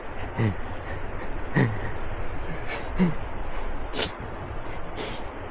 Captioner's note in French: Sanglots